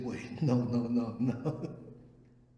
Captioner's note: laughs